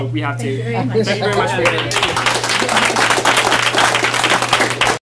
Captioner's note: applause